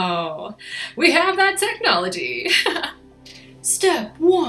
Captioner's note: laughs